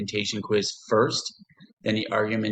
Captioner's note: pause